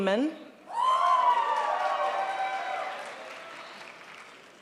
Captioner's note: crowd applauds